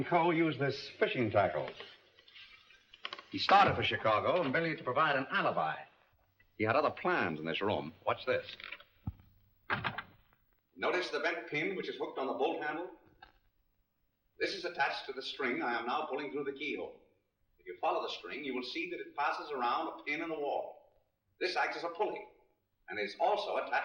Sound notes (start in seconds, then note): 9.6 door closes